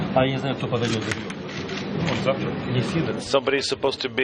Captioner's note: multiple voices speaking